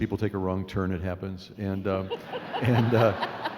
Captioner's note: laughing